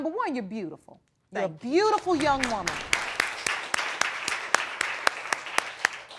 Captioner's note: audience applauds